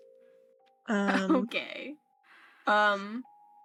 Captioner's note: chuckle